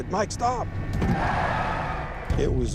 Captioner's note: car screeching